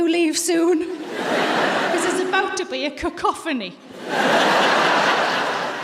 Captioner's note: laughter